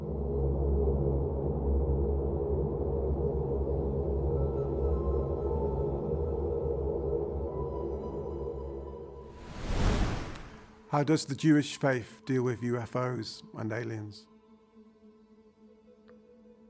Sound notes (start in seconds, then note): 0.1 ominous music; 9.3 wind whooshing